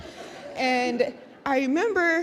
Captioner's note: audience laughs